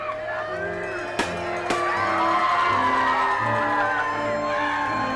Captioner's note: attendees cheering